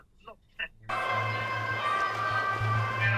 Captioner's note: sound of police sirens